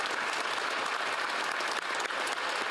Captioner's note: applause